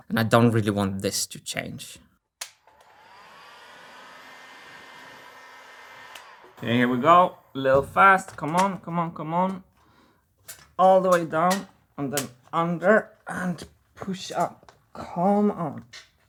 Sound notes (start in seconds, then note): 2.1 click; 2.5 heat gun blowing